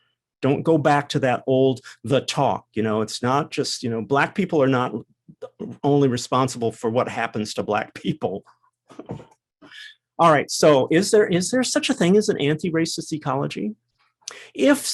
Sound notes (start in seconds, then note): 9.4 laugh